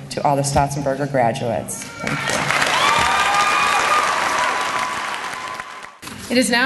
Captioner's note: applause